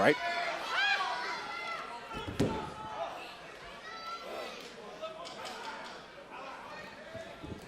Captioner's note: crowd chatter